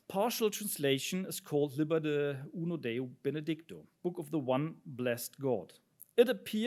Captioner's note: speaks in Italian